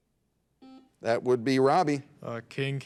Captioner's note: buzzer dings